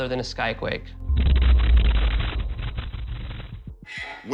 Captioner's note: thunderous boom